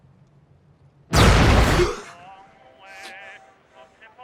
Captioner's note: loud explosion; gasps